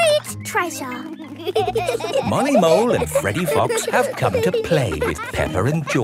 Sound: laughing

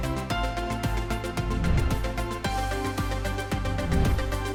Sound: animation swooshing

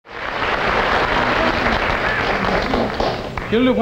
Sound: clapping

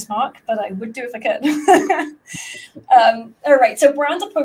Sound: laughs

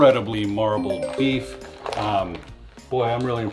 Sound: message tinkles

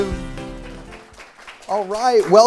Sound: applause

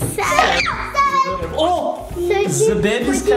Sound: screams

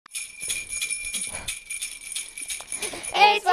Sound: christmas bells ringing

